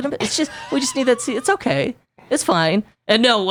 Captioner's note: giggles